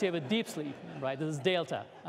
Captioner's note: laughter